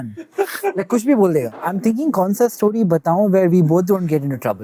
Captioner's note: speaking in Hindi